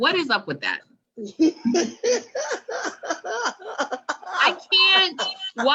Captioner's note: laughs